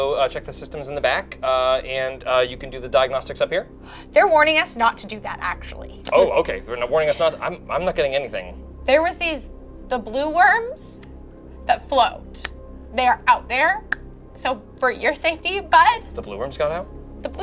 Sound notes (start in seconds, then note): none